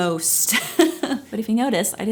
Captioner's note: laughing